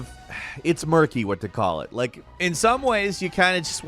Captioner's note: sighs